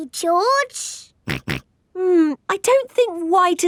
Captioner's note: snorts